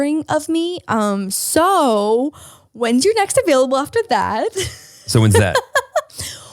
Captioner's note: laughs